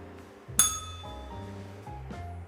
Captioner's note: bell rings